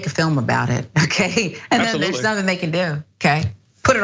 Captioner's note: laugh